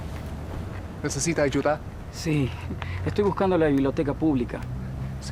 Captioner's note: men speaking Spanish